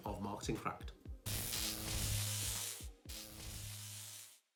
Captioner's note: electric Buzz